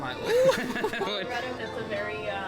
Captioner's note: laughs